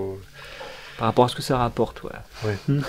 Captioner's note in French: rire